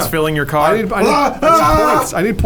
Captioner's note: yells